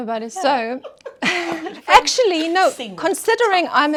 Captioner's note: laughs